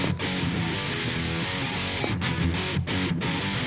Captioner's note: slow footsteps; upbeat rock music